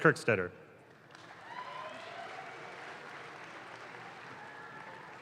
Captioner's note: audience claps